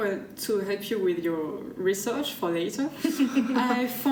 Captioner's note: laughter